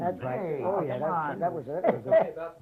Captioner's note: chatter